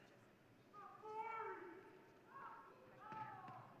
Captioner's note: audience member 1 shouts in distance; audience member 2 shouts in distance